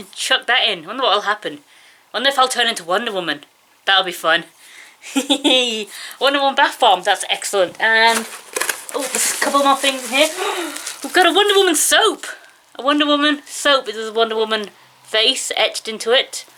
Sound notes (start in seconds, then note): 5.1 laughs; 10.1 gasps